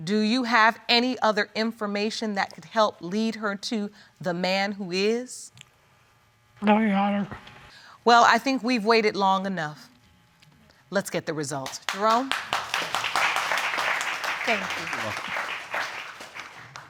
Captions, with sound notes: do you have any other information that could help lead her to the man who is? No, Your Honor. Well, I think we've waited long enough. Let's get the results. Jerome. (AUDIENCE CLAPPING) Thank you. You're welcome.